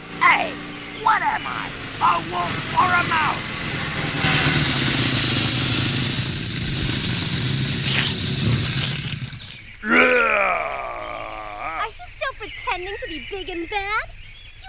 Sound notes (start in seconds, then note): 4.4 engine noise; 7.7 slurping; 9.8 growling